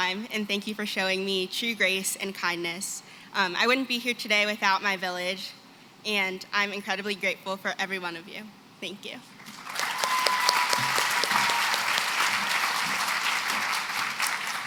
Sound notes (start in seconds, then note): 9.4 applause